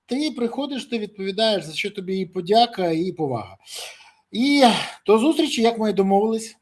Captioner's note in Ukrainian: сопіння